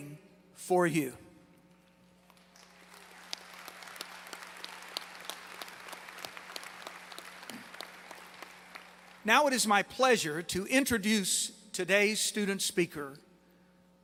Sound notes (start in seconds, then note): 2.2 applause